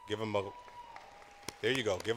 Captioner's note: cheering